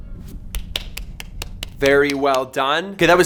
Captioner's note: clapping